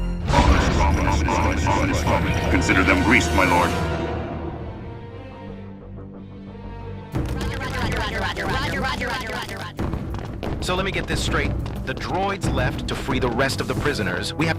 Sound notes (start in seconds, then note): 0.2 chef droids chanting "OMINOUS STRUT"; 7.4 battle droids shouting "roger roger" repeatedly